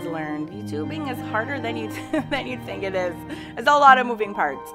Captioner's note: laughing